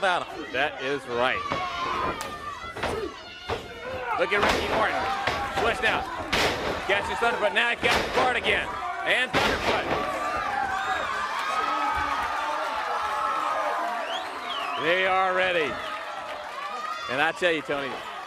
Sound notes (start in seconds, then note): 10.9 crowd cheering